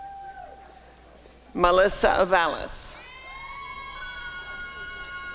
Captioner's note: applause and cheering; applause and cheering